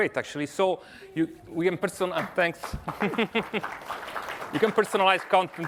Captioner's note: applause